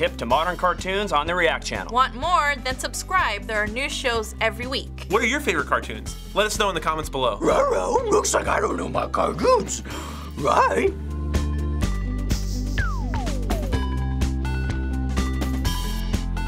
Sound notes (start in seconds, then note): 7.5 as Scooby; 11.1 upbeat theme music